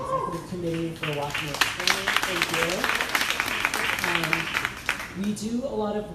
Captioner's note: crowd applauding drowns out speaker